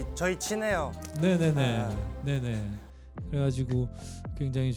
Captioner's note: chuckle